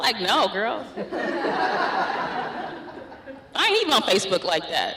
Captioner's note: laughter